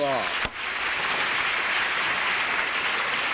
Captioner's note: applause